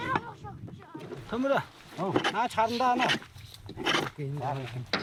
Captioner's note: foreign spoken audio